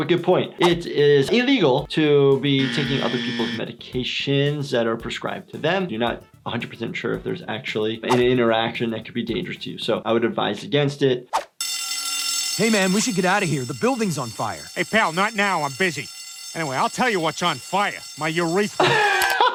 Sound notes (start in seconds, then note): 11.5 alarm sounds